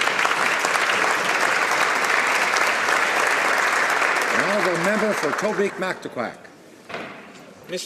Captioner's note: applause